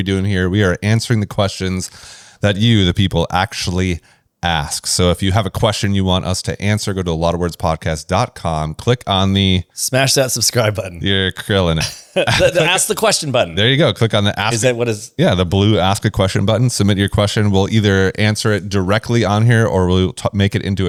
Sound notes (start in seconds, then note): 11.7 laughs